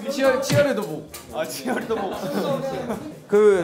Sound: laughs

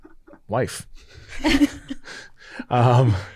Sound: all laughing

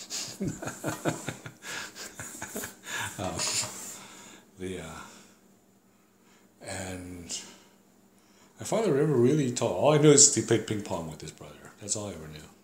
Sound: laughs

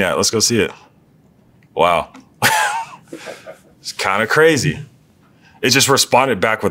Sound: laugh

